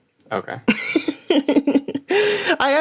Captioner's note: laughter